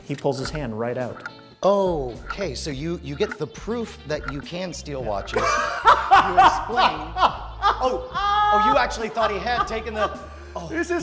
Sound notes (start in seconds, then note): 5.3 laughs